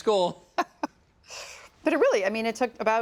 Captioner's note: laughing